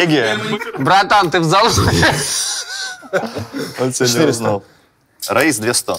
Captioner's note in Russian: смеется